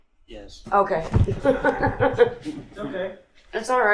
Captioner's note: laughing